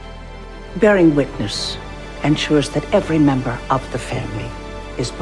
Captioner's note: voiceover